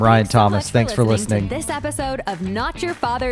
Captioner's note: voiceover